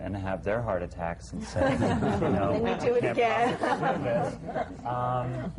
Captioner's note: laughter